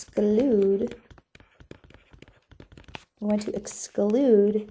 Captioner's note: continued stylus writing